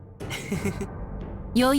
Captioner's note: chuckle